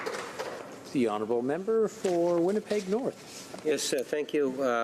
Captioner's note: some applause